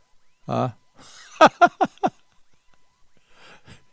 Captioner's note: laughs